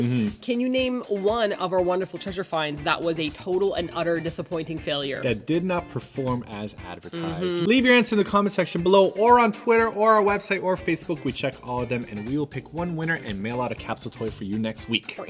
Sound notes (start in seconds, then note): none